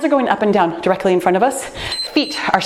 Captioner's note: timer beeps